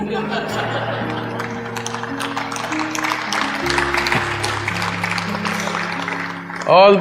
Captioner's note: laughter/Applause